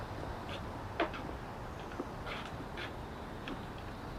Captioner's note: footsteps clacking